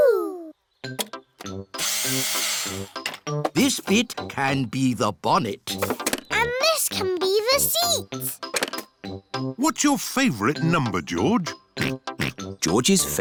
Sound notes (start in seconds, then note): 1.8 whirring; 12.5 snorts